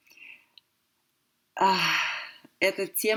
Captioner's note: sigh